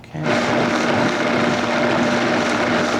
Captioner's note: blender whirring